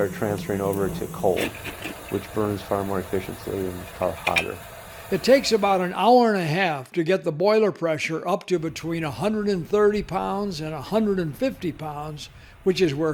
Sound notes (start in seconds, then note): 5.2 voiceover